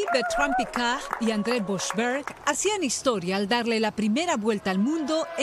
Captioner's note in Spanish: aplausos